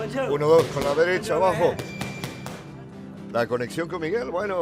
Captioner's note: hitting punching bag